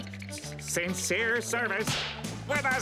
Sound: none

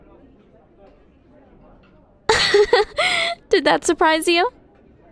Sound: laugh

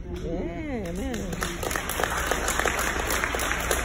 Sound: cheering

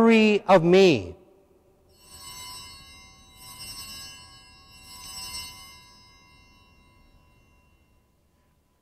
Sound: bells ringing

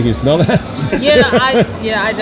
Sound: laughs

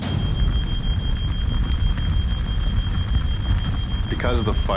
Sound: fire alarm beeping

